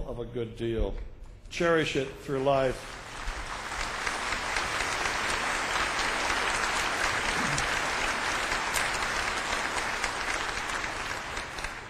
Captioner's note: clapping